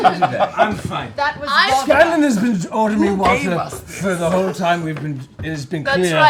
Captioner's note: slurred